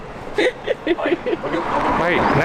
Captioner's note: laughs